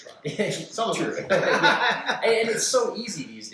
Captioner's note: laughter